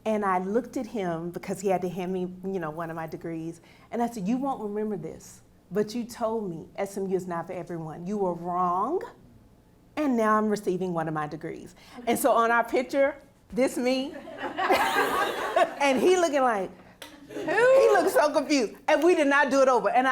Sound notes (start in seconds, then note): 14.2 audience laughing